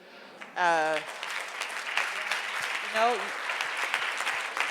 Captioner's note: audience applauds